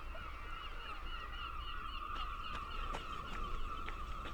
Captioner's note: seagulls